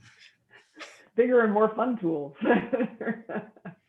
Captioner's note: laughs